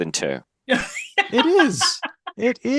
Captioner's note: laughs